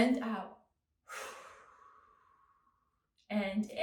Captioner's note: exhales